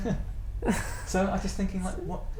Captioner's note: laughter